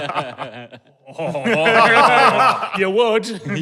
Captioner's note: laughter intensifies; group chuckling